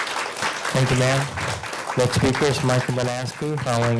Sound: applause

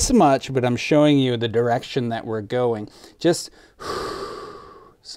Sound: exhales

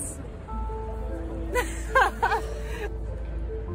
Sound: laughs

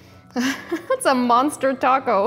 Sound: chuckles

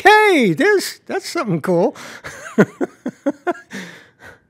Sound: laughs

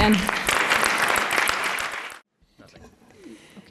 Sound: applause

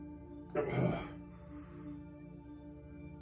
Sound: gagging noises

